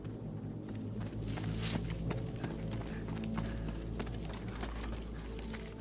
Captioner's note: runner panting